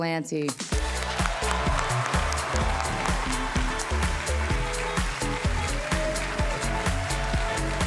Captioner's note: audience cheering; cheerful music